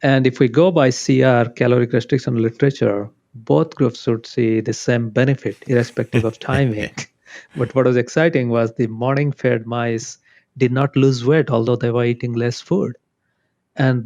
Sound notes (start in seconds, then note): 5.5 laughs